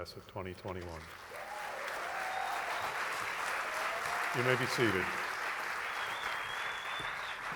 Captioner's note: applause